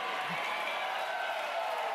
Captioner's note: cheers and applause